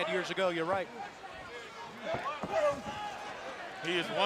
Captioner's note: crowd chatter